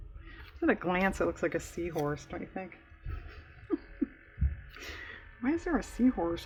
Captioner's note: laughs